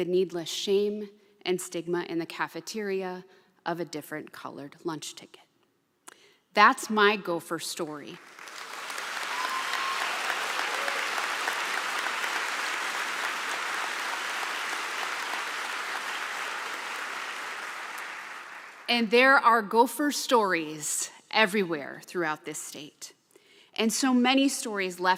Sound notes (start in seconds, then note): 8.1 applause